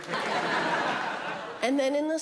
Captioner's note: audience laughing